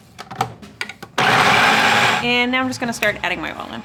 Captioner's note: food processor whines